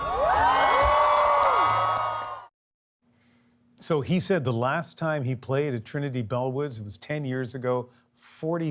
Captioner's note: cheers and Applause